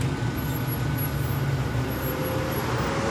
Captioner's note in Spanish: Frenazo